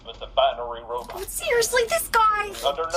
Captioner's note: A huge BOOM and CRASH are heard